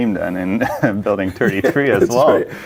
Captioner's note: laughing